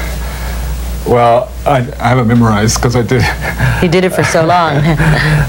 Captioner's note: laughs